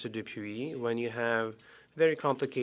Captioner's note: speaking French